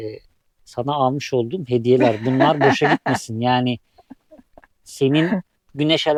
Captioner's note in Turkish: kahkaha